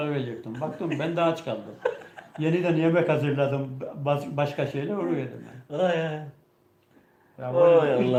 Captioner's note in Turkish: kahkaha